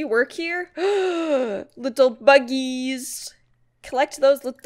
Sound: gasps

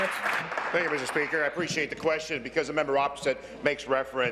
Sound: applause

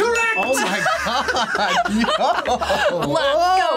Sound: laughs

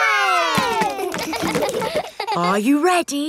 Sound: kids laughing; chuckles

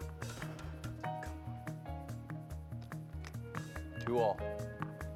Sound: racket tapping

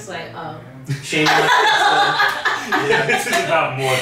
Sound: laughing

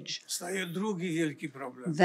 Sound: foreign language

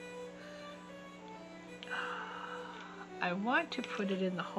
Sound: sigh

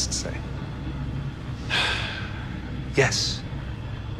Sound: sighs

